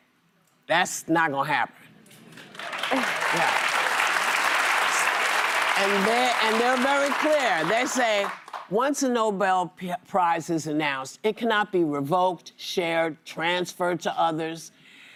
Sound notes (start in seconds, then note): 9.4 applause